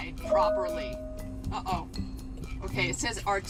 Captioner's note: car chimes